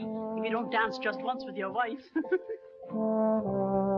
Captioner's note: laughs; gentle music